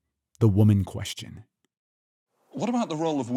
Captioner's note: soundbite of archived recording